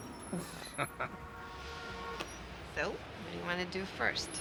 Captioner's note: laughing